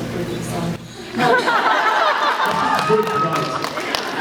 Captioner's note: laughs, cheers